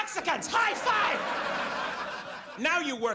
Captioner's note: audience laughs